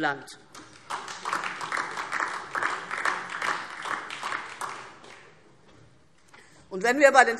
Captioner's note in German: Beifall DIE LINKE und vereinzelt SPD